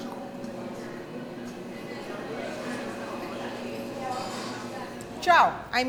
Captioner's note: people chattering indistinctly